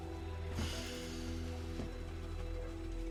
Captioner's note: sighing